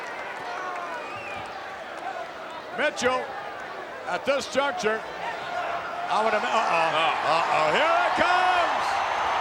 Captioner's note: applause